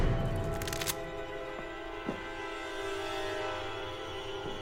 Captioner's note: gun clicks